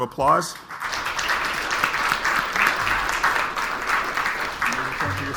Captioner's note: audience applauds